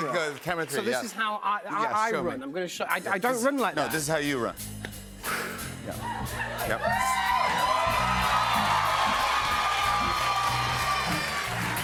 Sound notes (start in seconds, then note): 6.0 cheers and applause